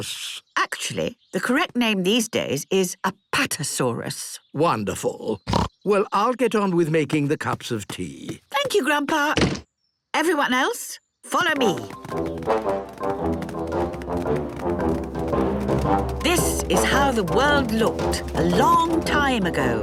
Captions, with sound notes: - Actually, the correct name these days is apatosaurus. - Wonderful. (snorts) Well, I'll get on with making the cups of tea. - Thank you, Grandpa! Everyone else, follow me! This is how the world looked a long time ago